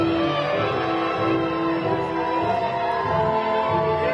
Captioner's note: crowd cheering